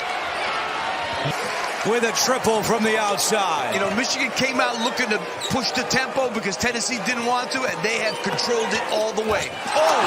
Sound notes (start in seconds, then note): 0.5 crowd noise